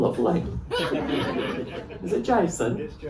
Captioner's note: laughter